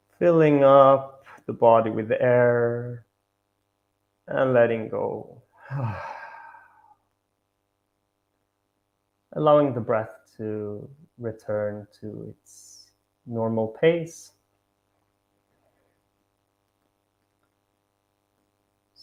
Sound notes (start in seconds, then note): 5.5 sighs